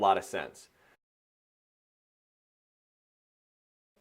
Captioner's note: silence